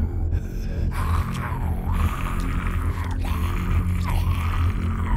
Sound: chewing and gore sounds

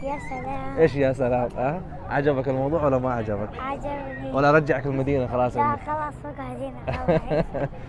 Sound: Arabic

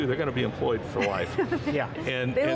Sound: laughing

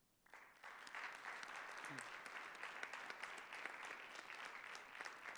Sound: audience applauding

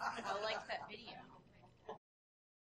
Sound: laughing; voiceover

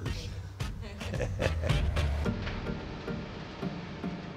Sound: laughing

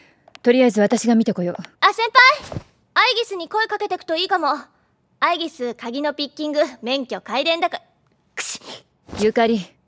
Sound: sneezes

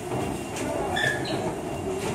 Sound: footsteps; squeak

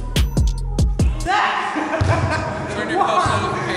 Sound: laughing

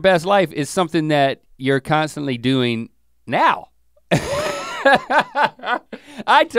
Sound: laughs

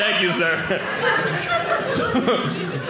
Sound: audience laughing

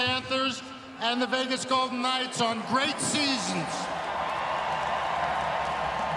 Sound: cheering

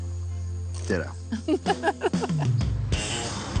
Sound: laughs

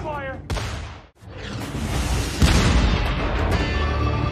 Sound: guns firing; dramatic music

